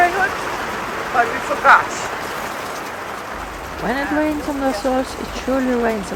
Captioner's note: sound of rain